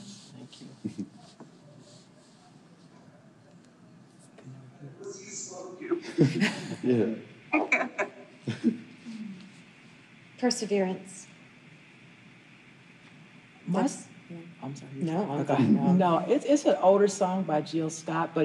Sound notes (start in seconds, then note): 5.8 group laughing